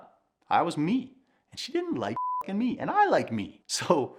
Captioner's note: beep